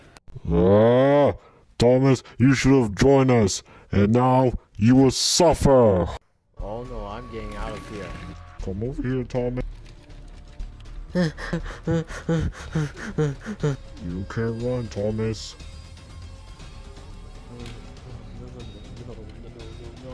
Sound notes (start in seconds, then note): 11.1 breathing intensely